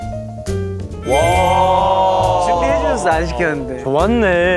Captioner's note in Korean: 감탄